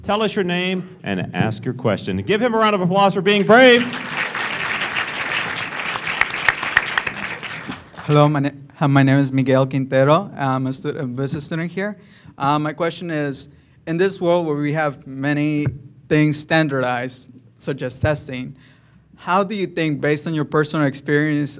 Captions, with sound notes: TELL US YOUR NAME AND ASK YOUR QUESTION. GIVE HIM A ROUND OF APPLAUSE FOR BEING BRAVE. [ APPLAUSE ] >> HELLO. MY NAME IS MIGUEL QUINTERO. I'M A BUSINESS STUDENT HERE. MY QUESTION IS IN THIS WORLD WHERE WE HAVE MANY THINGS STANDARDIZED, SUCH AS TESTING, HOW DO YOU THINK-- BASED ON YOUR PERSONAL EXPERIENCE